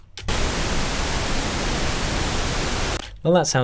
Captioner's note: pink noise crackling